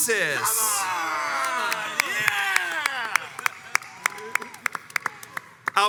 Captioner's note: crowds cheers and applauds